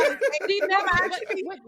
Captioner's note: laughing